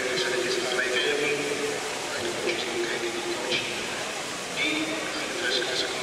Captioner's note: indistinct chatter